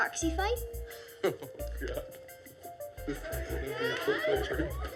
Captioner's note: laughs; laughter